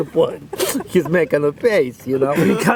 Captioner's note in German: Lachen